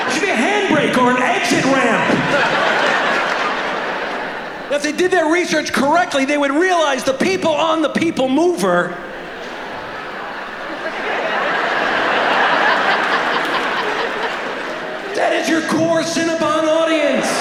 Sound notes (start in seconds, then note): 2.3 audience laughs; 11.3 audience laughing